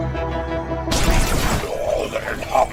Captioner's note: explosion